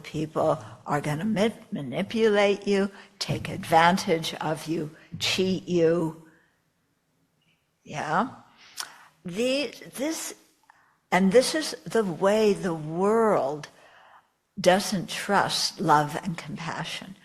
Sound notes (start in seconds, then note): none